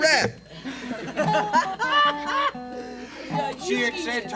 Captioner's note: audience laughs